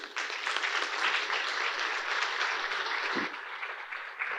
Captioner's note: audience applauding